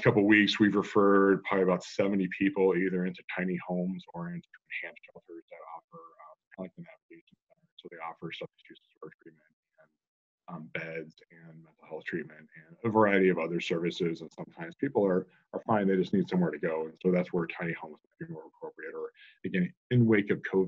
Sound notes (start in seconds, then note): 4.3 speaking off the mic; 6.4 audio cutting out